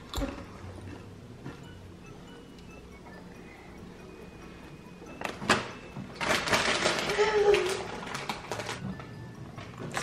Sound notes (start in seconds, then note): 0.2 chip crunch; 6.2 bag crinkling